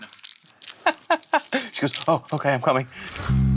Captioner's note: chuckles